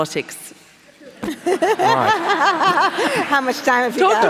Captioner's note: laughing